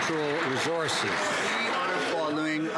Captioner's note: some Applause